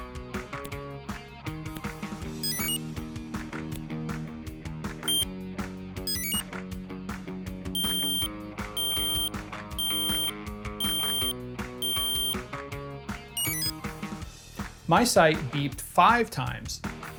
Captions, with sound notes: *Enter chime* *one short beep* *Enter chime* *five long beeps* *Exit chime* My sight beeped five times